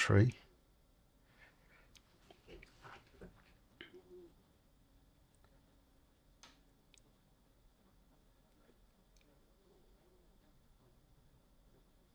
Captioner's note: silence